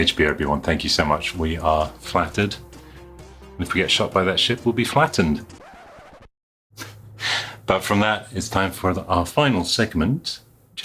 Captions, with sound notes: HB Obi Wan, thank you so much. We are flattered. And if we get shot by that ship, we'll be flattened. (record scratching) But from that, it's time for our final segment,